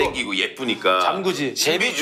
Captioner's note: haha